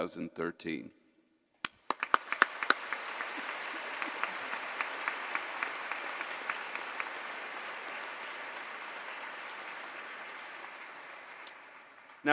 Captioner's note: applause